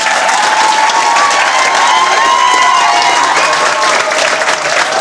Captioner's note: cheering and Applause